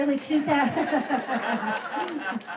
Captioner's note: laughter